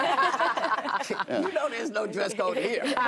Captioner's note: laughter